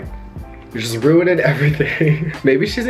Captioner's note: chuckles